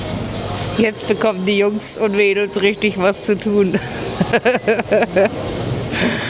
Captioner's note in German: gelächter